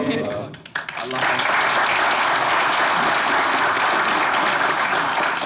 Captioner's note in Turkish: Alkış sesleri